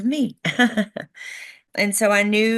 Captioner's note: laughs